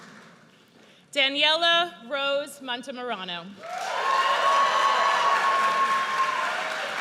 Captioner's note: audience cheers